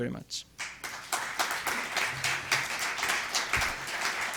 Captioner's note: clapping